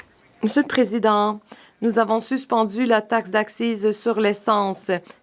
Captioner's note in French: voix de l'interprète